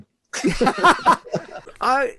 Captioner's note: laughing